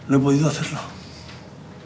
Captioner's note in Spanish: none